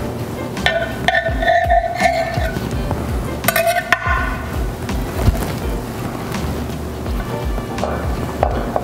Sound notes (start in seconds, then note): 0.7 knife slicing